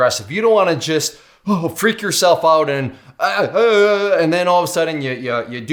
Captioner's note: moaning